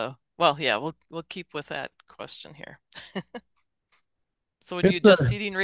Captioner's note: laughs